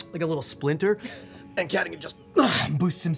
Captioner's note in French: grogne